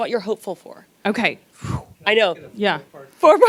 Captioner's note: blows air